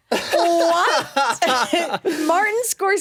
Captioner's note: laughs